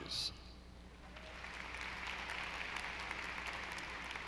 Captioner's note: audience applauding